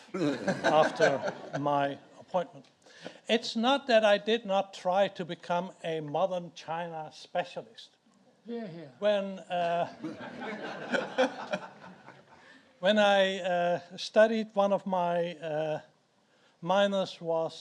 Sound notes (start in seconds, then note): 0.1 audience laughs; 10.0 audience laughs